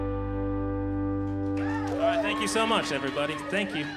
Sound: applause

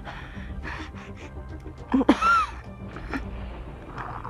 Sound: coughing up blood

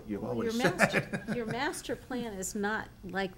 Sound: laughs

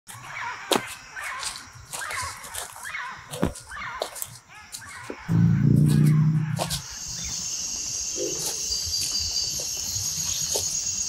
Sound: birds chirping

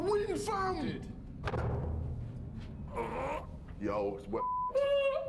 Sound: banging

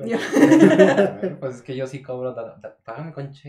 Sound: laughter

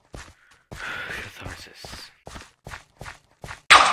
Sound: sigh

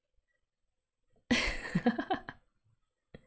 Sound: laughs

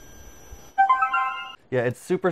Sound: high pitched noise playing; Speaker connected sound plays

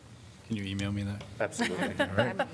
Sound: laughter

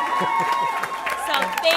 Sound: applause; cheering; laughter

